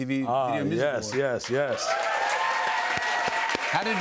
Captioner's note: cheers and applause